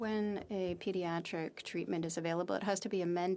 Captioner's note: speaking FRENCH